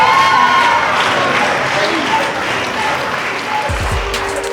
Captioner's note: spectators applauding; spectators cheering